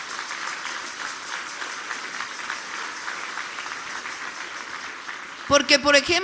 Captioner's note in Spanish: aplausos